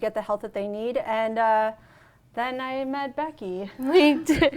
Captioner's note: laughs